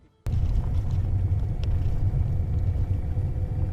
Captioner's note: sounds of driving on dirt road